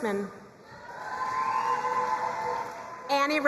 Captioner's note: crowd cheering and applauding